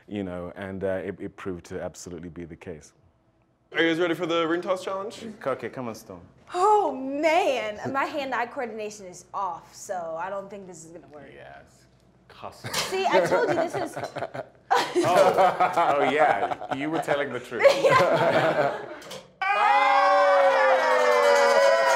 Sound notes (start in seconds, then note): 14.6 laughter; 19.4 cheers